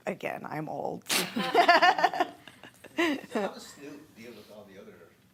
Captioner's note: laughing